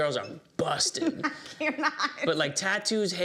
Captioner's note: laughs